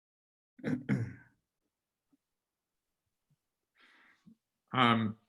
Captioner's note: clears throat